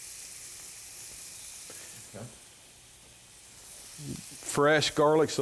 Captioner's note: sizzling